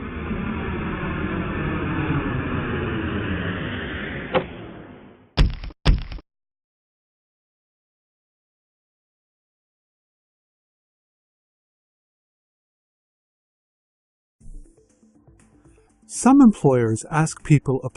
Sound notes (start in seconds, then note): 0.0 airplane landing; 4.2 suitcase dropping; 5.4 footsteps